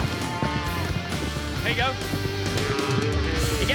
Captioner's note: cow moos